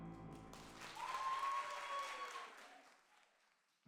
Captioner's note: applause